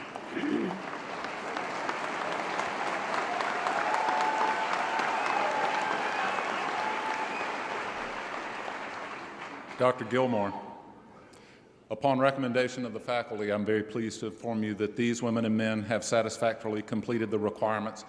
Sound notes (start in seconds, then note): 0.0 applause & Cheering